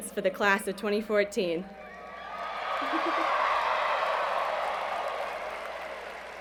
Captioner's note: cheers and Applause